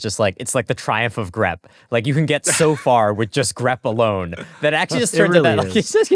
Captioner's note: laughter